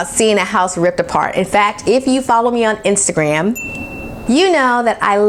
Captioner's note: ding